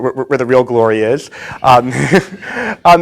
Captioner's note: laughs